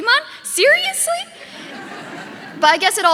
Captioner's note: audience laughing